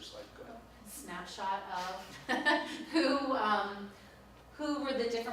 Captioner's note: laughs